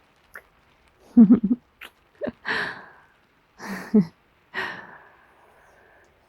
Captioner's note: laughs; kiss